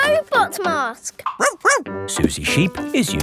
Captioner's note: barks